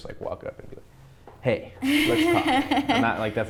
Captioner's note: laughs